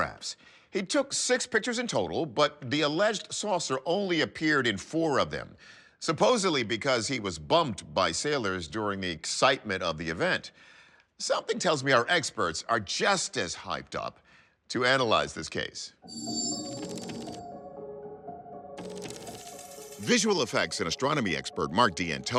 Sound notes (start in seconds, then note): 15.9 graphics whoosh; 16.0 suspenseful music